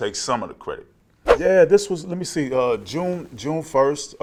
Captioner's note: air whooshing